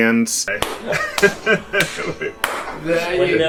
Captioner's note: laughter, clapping